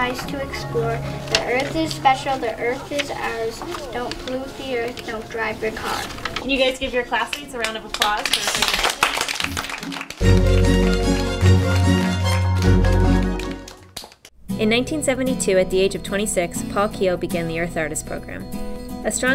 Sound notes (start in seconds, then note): 10.9 clapping